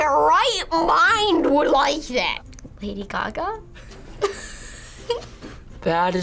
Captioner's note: laughs